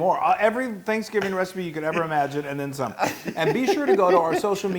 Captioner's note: laugh